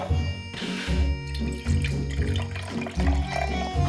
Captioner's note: liquid pouring